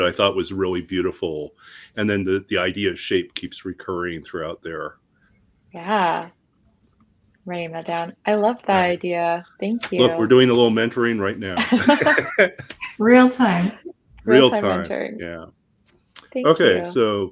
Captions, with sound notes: I thought was really beautiful. And then the idea of shape keeps recurring throughout there. - Yeah, writing that down. I love that idea, thank you. - Look, we're doing a little mentoring right now. (people laughing) - Real time. Real time mentoring, thank you.